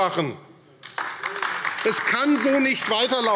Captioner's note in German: Beifall AfD